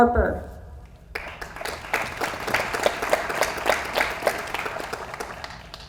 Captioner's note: audience applauds